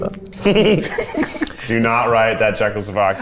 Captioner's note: everyone laughs